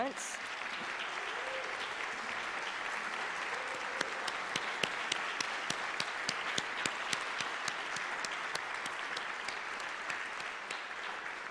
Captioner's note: applause